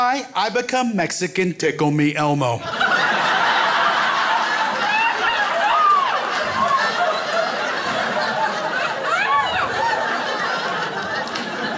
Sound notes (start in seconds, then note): 2.5 crowd laughs